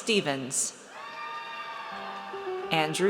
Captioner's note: audience cheers